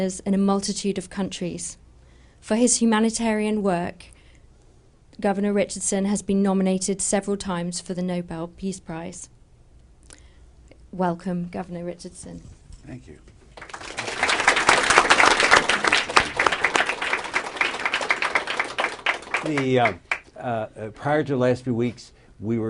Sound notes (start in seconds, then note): 13.5 applause